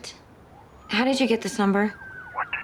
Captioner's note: siren wailing